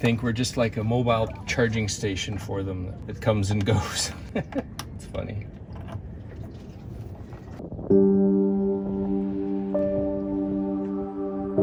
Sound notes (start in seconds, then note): 4.2 chuckling; 7.9 peaceful music